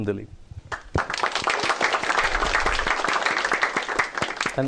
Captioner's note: applause